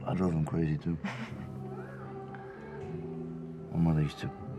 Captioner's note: laughs